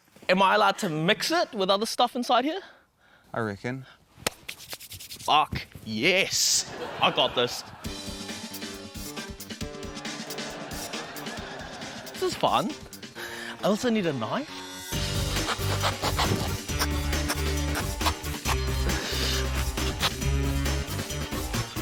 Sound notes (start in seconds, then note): 9.1 quirky music; 9.9 laughter; 15.8 quirky music continues